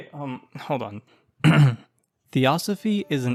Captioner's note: generic throat clearing noises